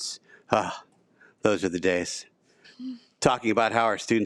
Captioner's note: sigh